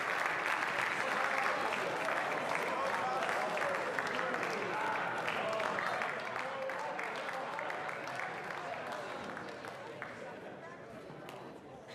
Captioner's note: applause